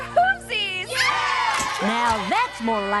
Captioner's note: cheers